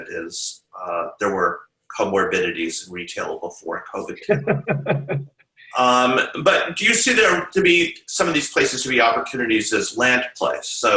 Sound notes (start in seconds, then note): 4.0 laughs